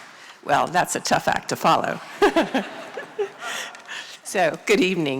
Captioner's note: laughter